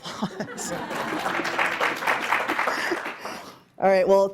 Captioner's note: audience applauding